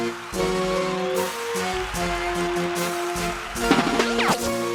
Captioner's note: enchanted whimsical music; crowd cheering